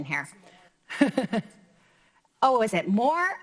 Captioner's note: laughs